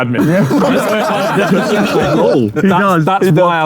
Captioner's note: group laughing